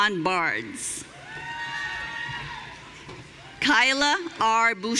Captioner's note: audience cheering